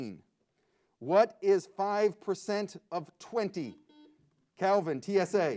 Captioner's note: buzzer beeps